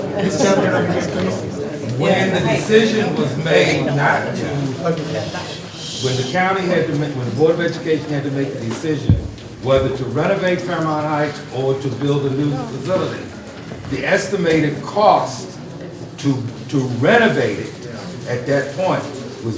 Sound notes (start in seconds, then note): 4.6 audience shushes